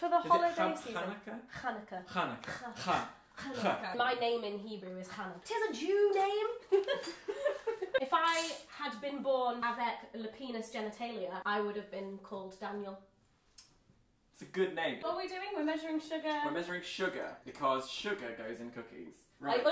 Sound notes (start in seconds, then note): 2.5 makes heavy 'H' sounds; 6.7 both laugh